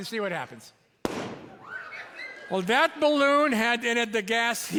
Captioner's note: balloon pops; audience screeches in surprise